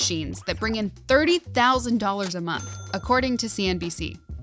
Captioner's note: cash register chiming